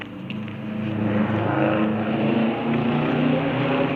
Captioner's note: loud obnoxious car engine revs